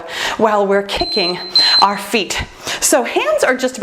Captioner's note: timer beeps